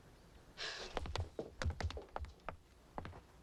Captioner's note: Tommy sighs